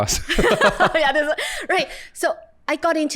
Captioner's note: laughter